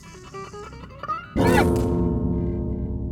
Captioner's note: scary noise